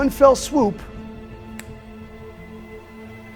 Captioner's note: finger snap; ominous music playing